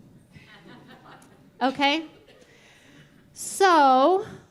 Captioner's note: audience chuckling